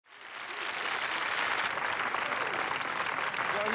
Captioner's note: applause